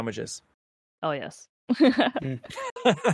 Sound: laughing

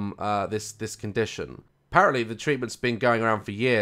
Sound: none

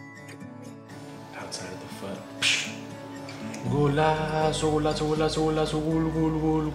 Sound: blows

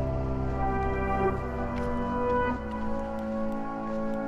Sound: footsteps crunching

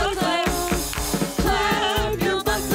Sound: clap clap clap

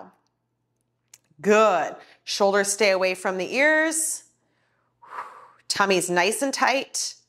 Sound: exhales

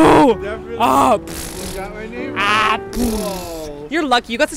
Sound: baby pleasing noises

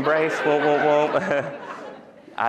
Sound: laughter

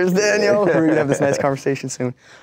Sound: laughs

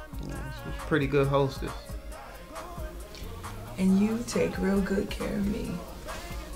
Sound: exhales

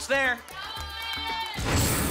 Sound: cheering

